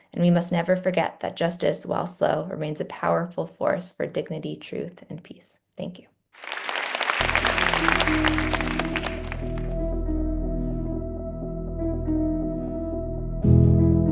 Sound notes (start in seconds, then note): 6.4 audience applauds; 8.8 gentle music